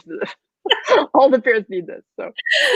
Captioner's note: laughing